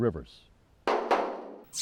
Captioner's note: bang; zap